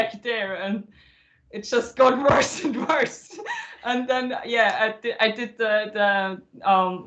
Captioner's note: laughter